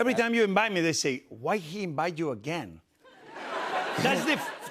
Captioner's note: laughter